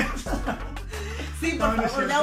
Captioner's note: laughter